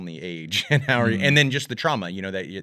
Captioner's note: laughs